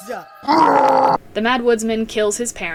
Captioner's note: growl